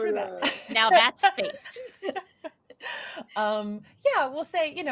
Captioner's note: laughing